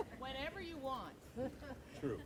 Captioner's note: group chuckles